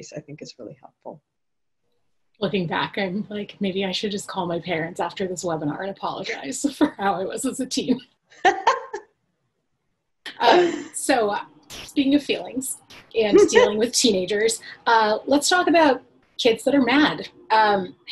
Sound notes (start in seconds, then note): 8.4 laughing